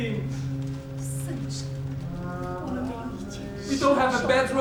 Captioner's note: speaking in a foreign language